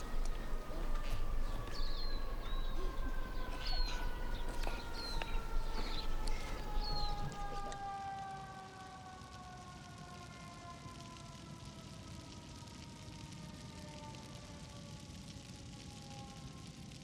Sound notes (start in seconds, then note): 8.7 fire sound effects